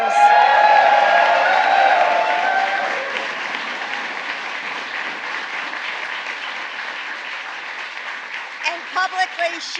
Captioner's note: applause